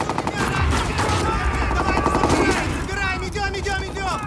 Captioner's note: gunfire; men shouting